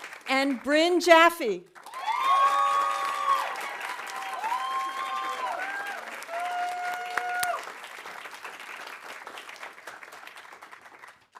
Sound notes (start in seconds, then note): 1.7 audience applauding; 1.8 audience cheering